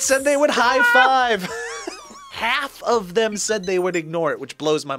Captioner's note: laughs